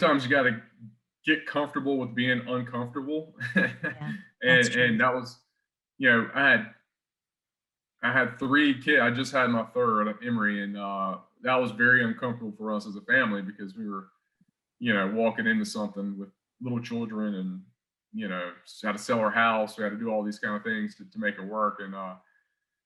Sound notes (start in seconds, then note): 6.1 chuckles